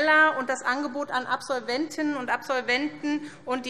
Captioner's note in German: none